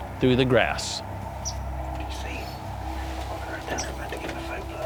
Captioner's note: whispering